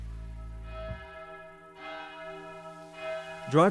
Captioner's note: church bell ringing